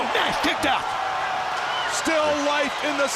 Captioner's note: crowd cheering